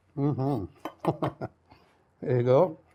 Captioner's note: chuckles